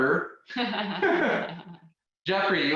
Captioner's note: both laughing